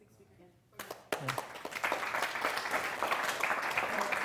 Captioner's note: applause